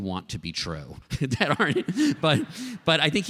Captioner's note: laughter